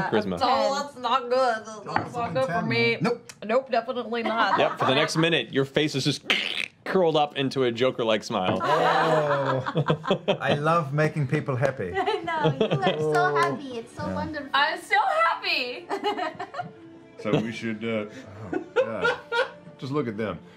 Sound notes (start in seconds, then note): 14.7 voice cracking